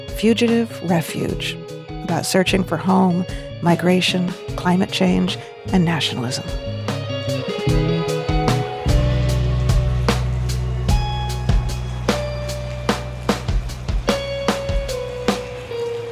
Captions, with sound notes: "Fugitive Refuge," about searching for home, migration, climate change, and nationalism. (experimental jazz music continues) (rain pattering) (experimental jazz music continues)